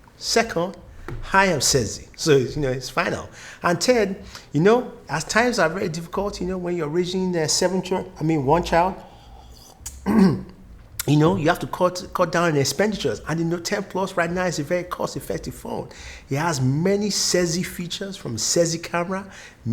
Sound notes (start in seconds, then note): 9.6 coughs